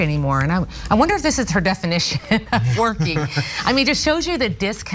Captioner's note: laugh